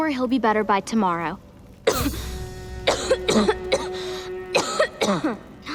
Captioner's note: coughing